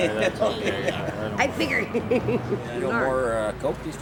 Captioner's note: laughs